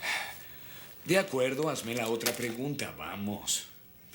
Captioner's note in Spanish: suspiro